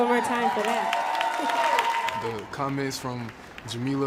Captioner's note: applause